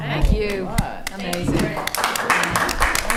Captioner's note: attendees reacting positively; attendees applauding